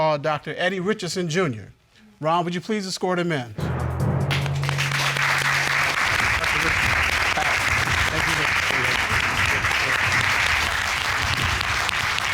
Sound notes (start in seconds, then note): 4.3 audience applauding; 8.7 indistinct chatter